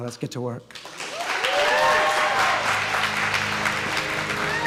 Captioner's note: audience cheering